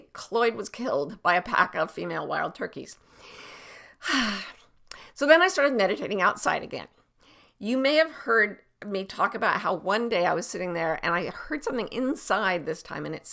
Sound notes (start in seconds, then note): 4.0 sighs